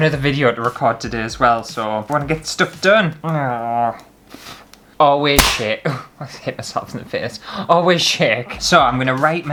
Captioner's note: slap!